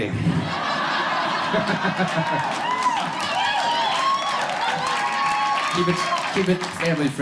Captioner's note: crowd cheering